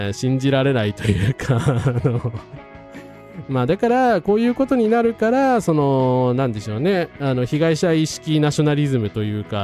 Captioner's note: laughs